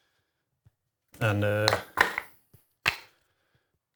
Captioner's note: clapping